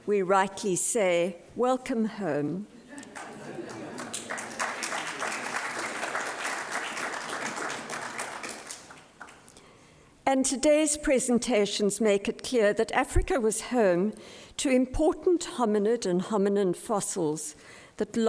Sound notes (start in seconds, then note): 2.8 audience laughs; 4.8 applause